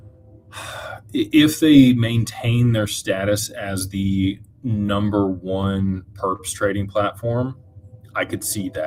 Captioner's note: sighs